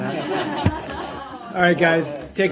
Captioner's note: laughter